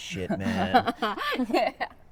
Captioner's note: Amy laughs